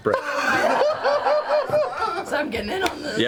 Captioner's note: cheers and laughter